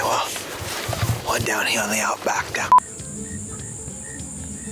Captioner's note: beep